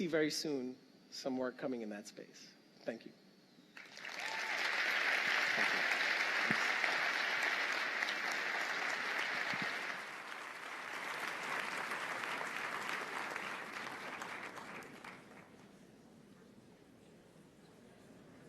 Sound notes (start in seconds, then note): 3.7 applause